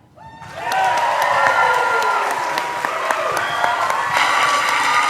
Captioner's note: audience cheering